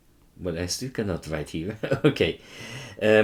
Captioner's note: chuckles